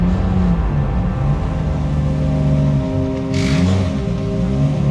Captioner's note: car engine revving